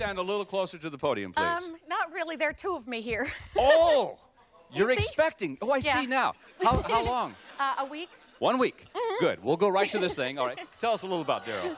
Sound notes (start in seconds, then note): 4.0 laughs